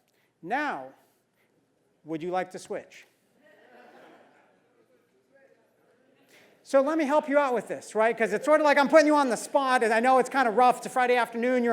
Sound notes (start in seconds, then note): 3.7 laugh